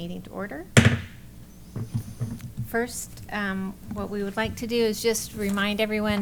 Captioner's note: bangs gavel